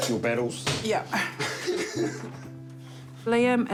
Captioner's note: laughs